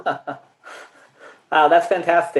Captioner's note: laughs